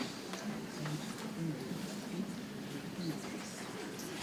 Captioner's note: people chattering softly